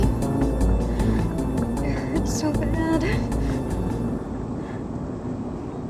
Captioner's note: groans; Ellie breathes uneasily